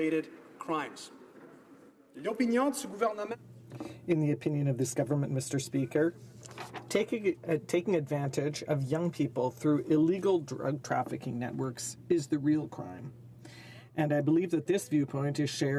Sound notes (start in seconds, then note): 5.5 speaking in french